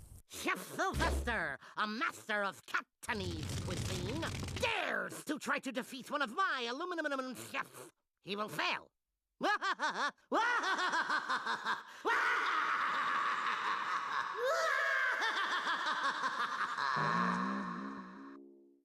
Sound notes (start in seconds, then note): 9.5 laughing maniacally